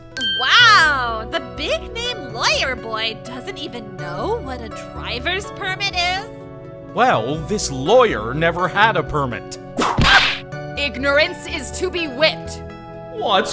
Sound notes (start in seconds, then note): 9.8 whip crack!